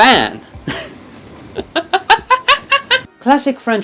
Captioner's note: laughs maniacally